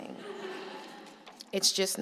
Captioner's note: laughter